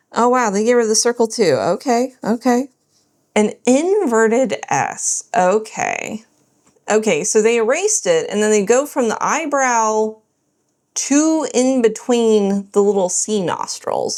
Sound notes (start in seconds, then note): none